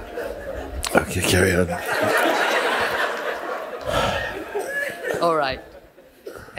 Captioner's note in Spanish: risas